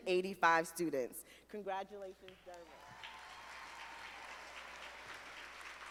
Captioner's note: audience applauding